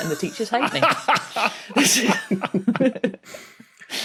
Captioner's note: guests snickering; cackles